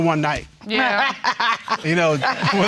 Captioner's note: laughing